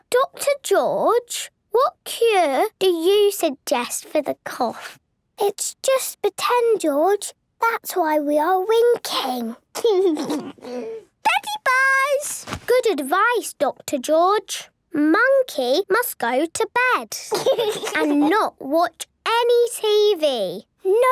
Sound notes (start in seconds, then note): 9.8 laugh; 17.2 laugh